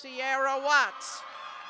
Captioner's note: cheers and applause